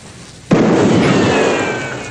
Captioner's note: popping continues